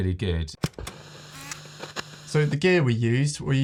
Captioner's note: TV screen hissing